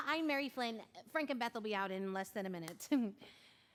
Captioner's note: chuckles